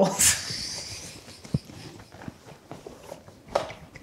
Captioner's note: both laughing